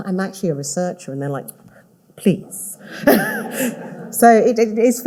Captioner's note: all laughing